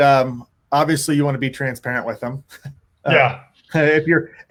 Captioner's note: laughs